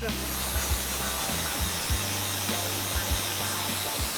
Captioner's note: whirring